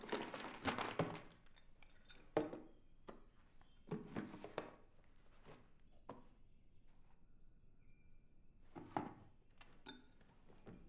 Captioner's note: notebooks clatter on floor